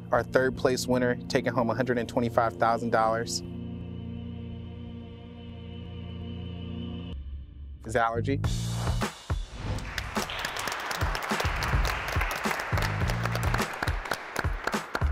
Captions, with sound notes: Our third place winner taking home $125,000, is Alerje. (applause) (upbeat music)